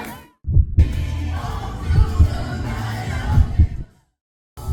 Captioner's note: steady Heart Beat